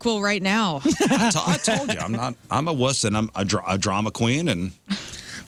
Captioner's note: laughing